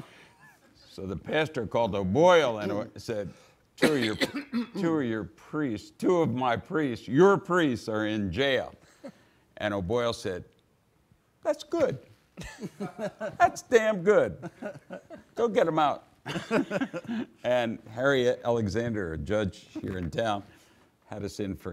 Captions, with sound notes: So the pastor called O'Boyle and said, (man coughing) "Two of "your priests are in jail." O'Boyle said, "That's good, "that's damn good. "Go get them out." (laughs) (audience laughing) Harriet Alexander, judge here in town,